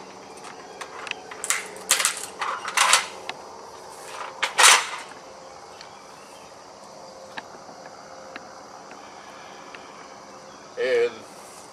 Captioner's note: cracks nut